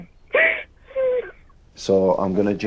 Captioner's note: crying